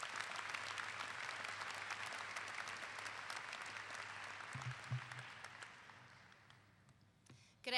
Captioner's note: clapping